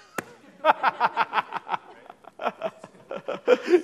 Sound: laughing

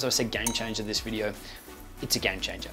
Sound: bell ringing

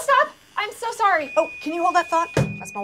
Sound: microwave beeps

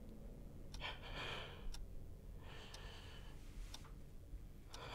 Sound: Elizabeth breathing laboriously; clock ticking

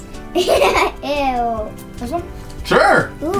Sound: laughs

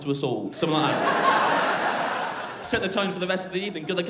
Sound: crowd laughing

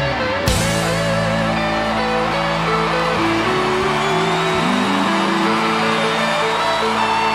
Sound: thunderous applause

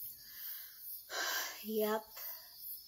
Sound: sighs

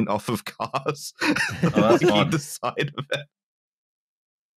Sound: laughing

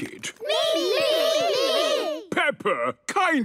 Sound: calling out in turn

